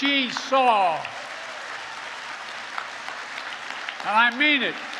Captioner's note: applause